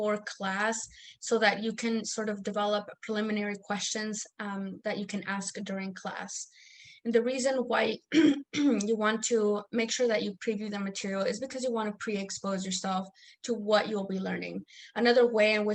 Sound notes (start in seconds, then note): 8.1 clears throat